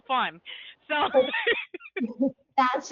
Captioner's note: laughs